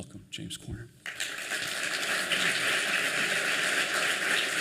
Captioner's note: applause